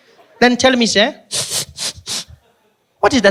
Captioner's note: sniffing